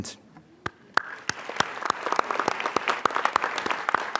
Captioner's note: applause